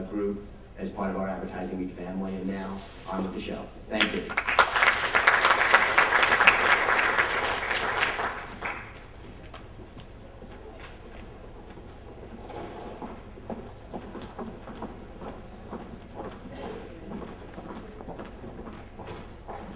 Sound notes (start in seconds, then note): 4.0 applause